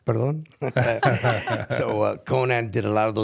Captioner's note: group laughs